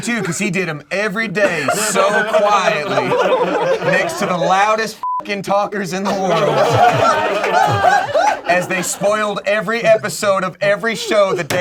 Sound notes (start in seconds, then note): 5.0 beep; 6.0 group laughs